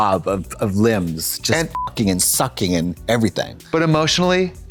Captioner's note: beep